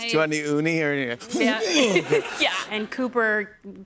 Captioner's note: mock retches